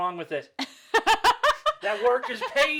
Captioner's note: laughing